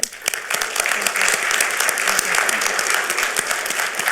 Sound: audience applauding

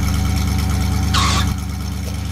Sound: skid

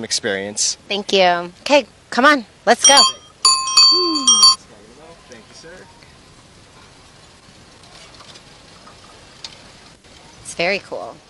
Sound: bike Chime

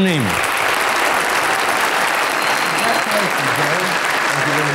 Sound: audience applauds

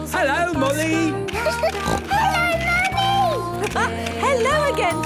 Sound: laughing; giggling and snorting

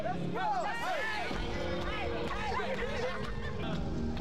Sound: all clamoring

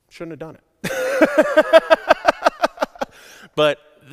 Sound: laughs hysterically

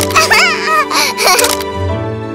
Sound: Rarra giggles

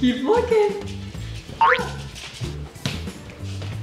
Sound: boing

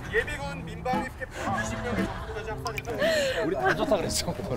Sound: giggling

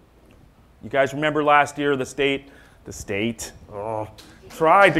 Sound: groans

